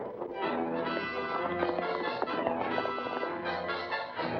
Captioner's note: dramatic music; hooves pounding; dramatic music